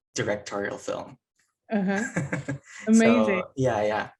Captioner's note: laughing